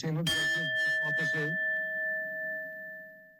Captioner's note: bell rings